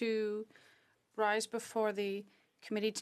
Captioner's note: speaking French